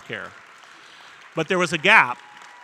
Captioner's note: audience applauding